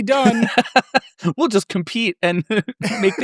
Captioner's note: laughs